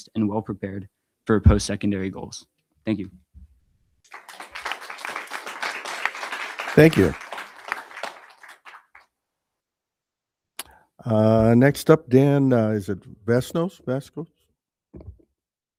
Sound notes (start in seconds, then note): 4.0 audience applauding